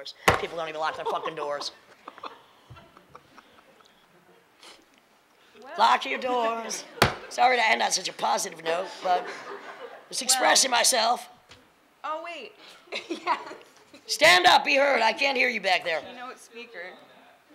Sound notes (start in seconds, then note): 2.4 laughing; 8.8 laughing